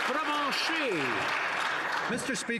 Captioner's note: some Applause